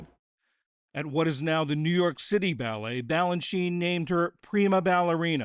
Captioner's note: voice-over